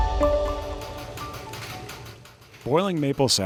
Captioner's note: machinery rattles